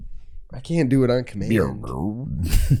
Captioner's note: grumbling noise